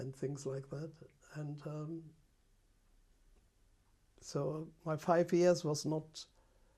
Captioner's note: pauses for 3 seconds